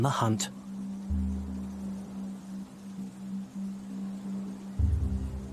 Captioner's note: grasses rustling; foreboding music